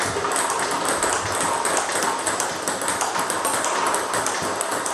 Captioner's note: ball ping pong hitting continues